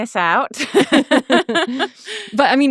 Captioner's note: laughing